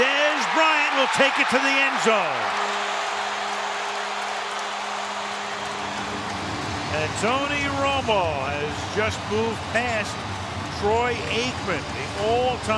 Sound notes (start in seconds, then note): 3.2 air horn blows